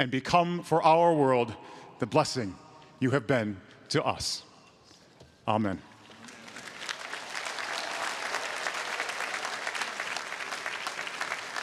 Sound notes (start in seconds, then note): 6.1 audience applauding